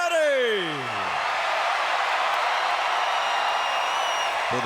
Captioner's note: crowd cheers